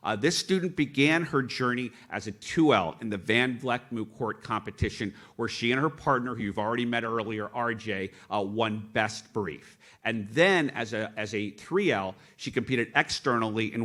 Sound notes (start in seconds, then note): none